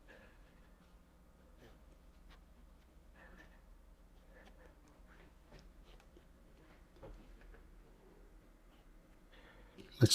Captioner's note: silence